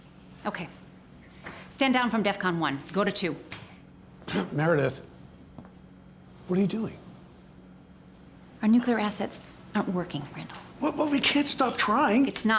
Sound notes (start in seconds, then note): 4.2 clears throat